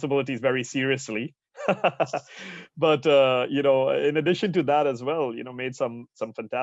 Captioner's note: laugh